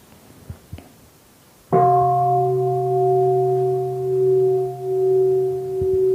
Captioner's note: bell